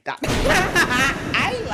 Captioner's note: laughing